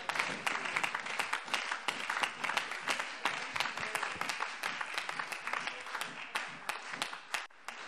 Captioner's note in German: Beifall Freie Demokraten, SPD, AfD und DIE LINKE